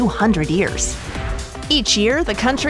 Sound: air whooshing

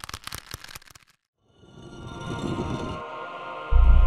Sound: leather creaking; stone sliding

